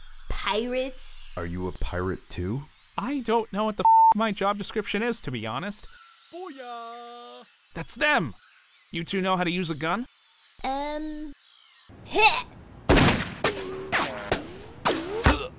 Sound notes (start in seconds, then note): 12.8 shot fired; 12.9 thud